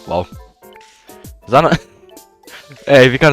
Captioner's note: giggle